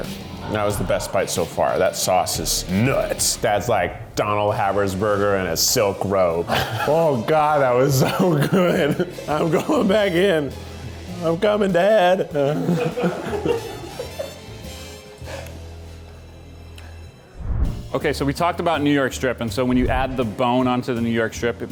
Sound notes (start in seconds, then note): 6.5 laughs; 12.4 offscreen laughs